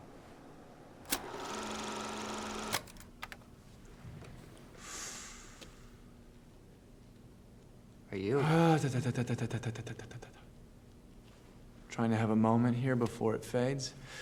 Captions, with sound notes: [projector whirring] [Duke inhales] -Are you... -[warms up vocal cords] Trying to have a moment here before it fades,